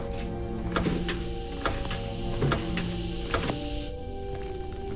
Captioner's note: gas hissing